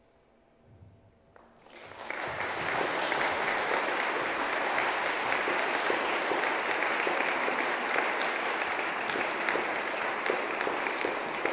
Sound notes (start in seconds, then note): 2.0 audience clapping